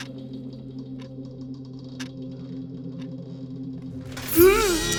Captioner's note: eerie music continues; clock continues ticking; sword swishes; person groans